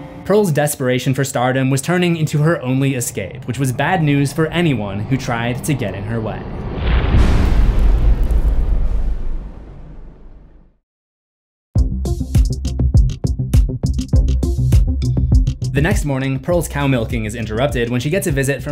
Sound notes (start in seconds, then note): 6.6 impact